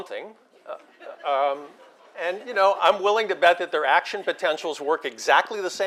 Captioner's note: laugh